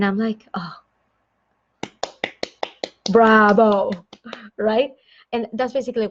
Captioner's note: clapping